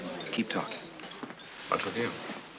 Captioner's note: indistinct chatter